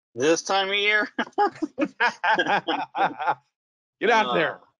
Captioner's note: laughing